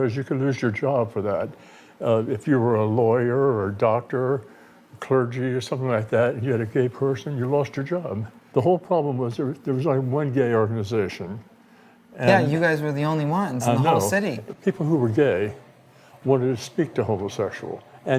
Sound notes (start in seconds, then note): none